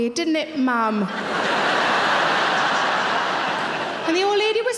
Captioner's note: laughing